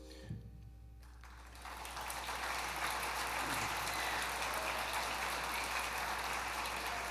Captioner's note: applause